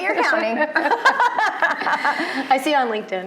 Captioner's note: both laughing